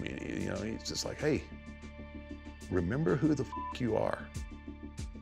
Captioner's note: beep